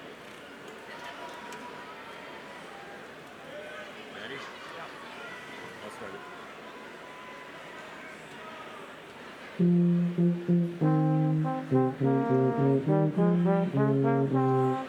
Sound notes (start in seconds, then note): 7.3 crowd chattering; 9.6 gentle music